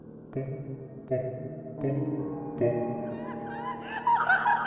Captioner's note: deep laughter